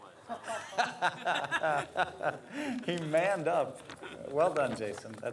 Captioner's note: laughs